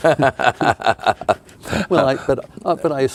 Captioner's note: laughing